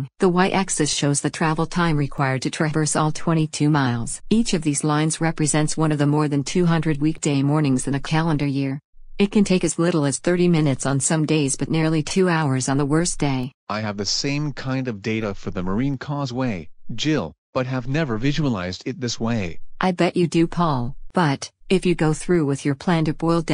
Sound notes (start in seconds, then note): 13.5 excited; 19.7 soothing